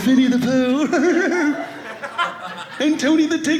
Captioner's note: audience laughing